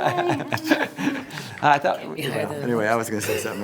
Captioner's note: all laugh